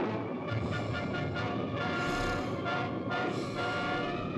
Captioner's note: gentle upbeat music; Barbara snoring; gentle upbeat music